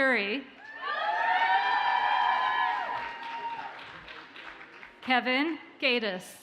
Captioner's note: audience cheers and applauds